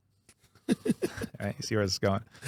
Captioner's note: laughing